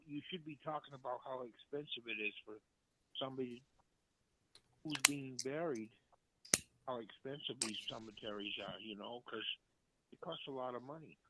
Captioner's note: off mic